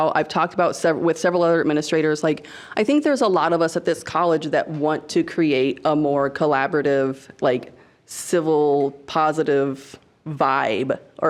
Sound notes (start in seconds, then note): none